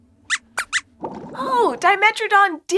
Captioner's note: squeaks squeaks